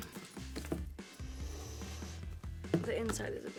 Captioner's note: inhales